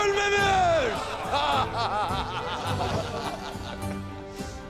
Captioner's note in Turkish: Gülme sesleri